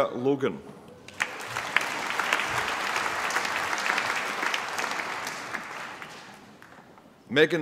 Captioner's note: applause